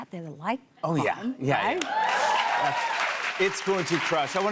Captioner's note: cheers and applause